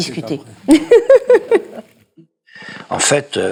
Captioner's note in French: Rire